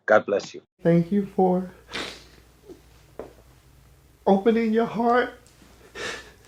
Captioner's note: crying